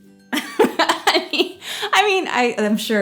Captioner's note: laughing